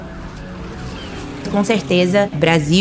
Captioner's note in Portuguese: Ruídos urbanos